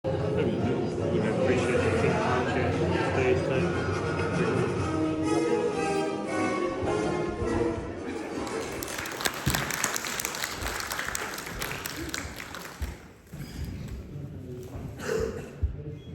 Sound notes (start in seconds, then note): 8.3 applause